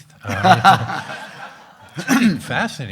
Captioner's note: everyone laughing